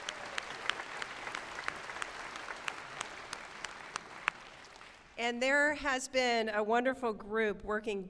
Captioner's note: applause